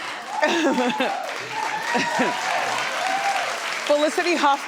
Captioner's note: audience cheering; laughing